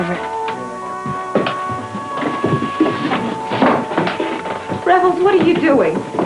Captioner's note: footsteps